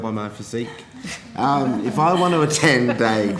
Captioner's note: laughter